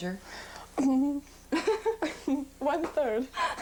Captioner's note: giggling; laughter